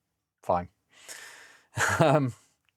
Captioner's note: laughs